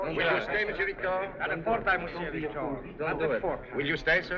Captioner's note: French